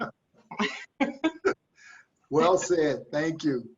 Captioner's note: laughs